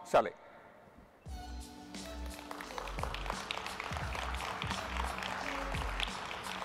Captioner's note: upbeat music; audience applauding